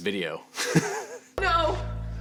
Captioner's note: laughs